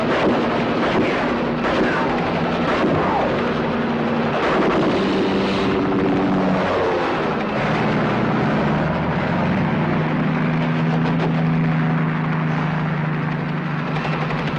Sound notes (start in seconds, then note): 0.0 gunshots popping; 6.0 helicopter roaring; 8.1 truck engine whirring; 11.1 engine sputters and stops